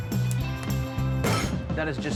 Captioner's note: upbeat music; counter thumps